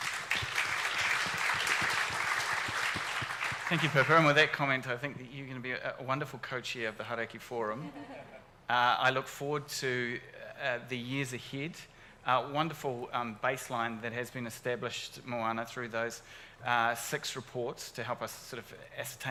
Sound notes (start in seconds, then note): 0.0 audience applauds; 7.9 audience laughs